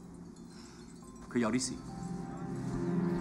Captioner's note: speaks Mandarin